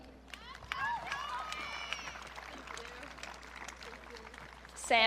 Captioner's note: audience cheering